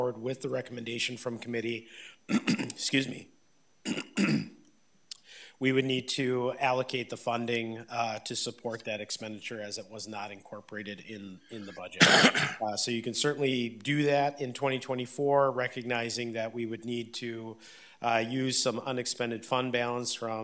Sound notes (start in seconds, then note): 3.8 clears throat